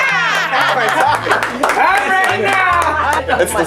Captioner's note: clapping